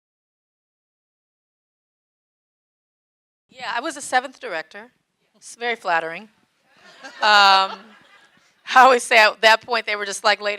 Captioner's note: audience laughing